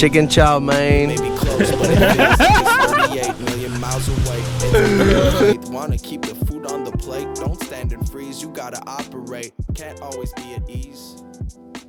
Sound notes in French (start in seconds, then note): 1.4 rires